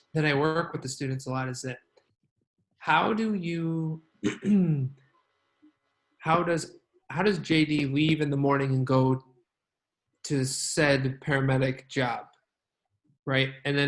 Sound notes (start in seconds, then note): 4.2 clears throat